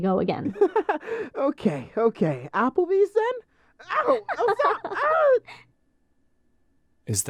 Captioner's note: laughs